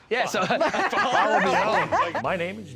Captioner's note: laughter